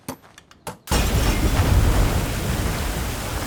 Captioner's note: water gushing